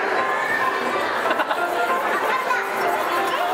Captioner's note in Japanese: スタッフさんの笑い声